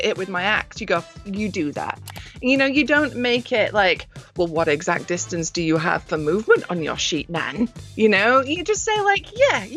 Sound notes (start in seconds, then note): 2.0 mouse clicks